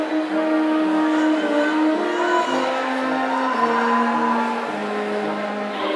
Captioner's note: audience cheering